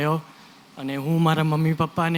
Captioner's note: non-english